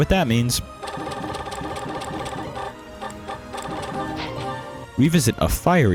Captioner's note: stat booster sounds